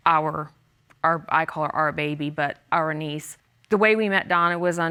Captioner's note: stammers